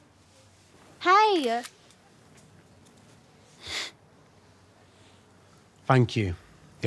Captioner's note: camera shutter clicking